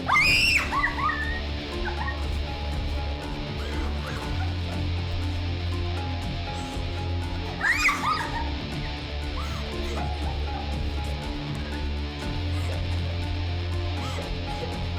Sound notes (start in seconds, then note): 0.0 dramatic music; 0.0 Gigi screaming and sobbing; 7.2 Gigi sobbing; 7.8 dramatic music continues